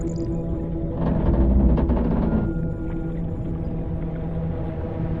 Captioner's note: metal cracking